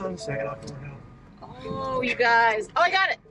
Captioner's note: open door notification chiming